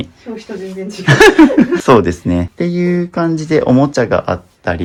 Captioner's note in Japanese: 笑い